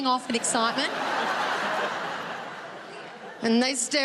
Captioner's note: audience laughing